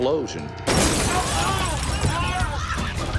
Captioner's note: glass breaking; yelling